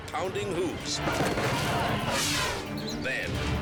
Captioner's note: hooves thumping; elephant trumpets